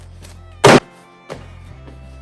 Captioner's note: thump